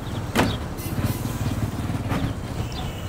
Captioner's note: car horn